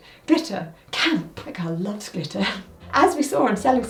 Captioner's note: laughs